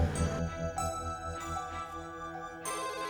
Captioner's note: ringing Continues